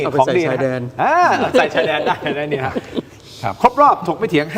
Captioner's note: laughs